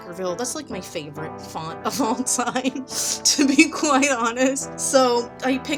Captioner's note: laughs